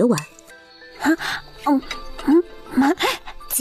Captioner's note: hmph hmm